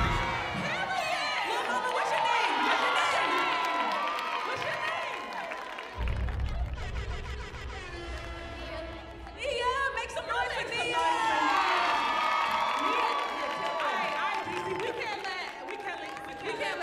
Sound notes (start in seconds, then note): 0.0 vocal track drowned out by audience Cheering; 5.0 horn Blaring; 12.2 audience cheering